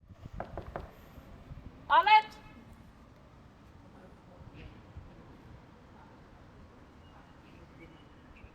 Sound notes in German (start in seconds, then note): 0.4 Klopfen an Tür; 1.7 lautes Rufen